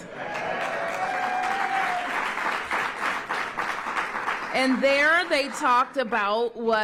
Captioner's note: applause